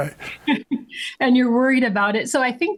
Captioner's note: laughs